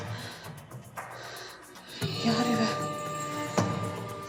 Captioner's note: gasps